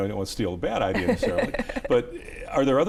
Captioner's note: laughs